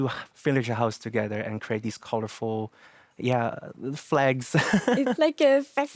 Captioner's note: laughs